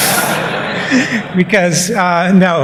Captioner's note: laughter